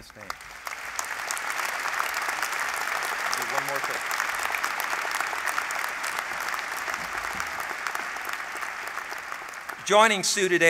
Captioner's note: applause